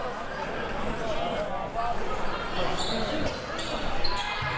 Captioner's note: audience chattering